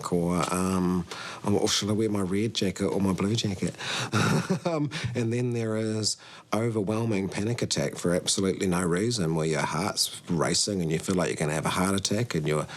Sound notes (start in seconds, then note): 4.0 chuckles